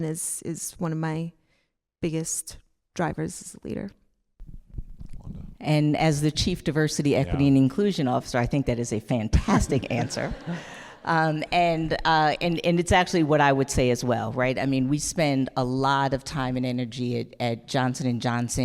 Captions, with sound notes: is one of my biggest drivers as a leader. - And as the chief diversity, equity and inclusion officer, I think that is a fantastic answer. (audience laughing) And it's actually what I would say as well, I mean we spend a lot of time and energy at Johnson and Johnson,